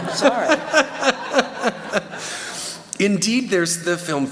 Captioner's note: laughter